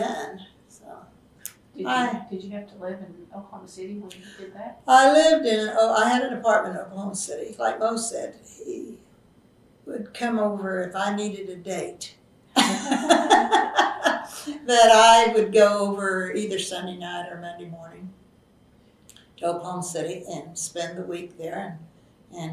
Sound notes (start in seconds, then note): 12.6 laughs